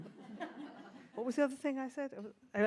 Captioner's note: audience laughs